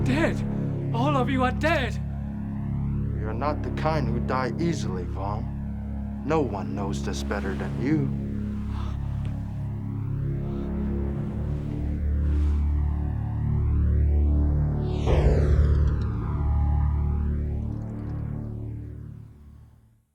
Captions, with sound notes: You're dead, all of you are dead! - We are not the kind who die easily, Vong. No one knows this better than you. (Vong gasping) (suspenseful music)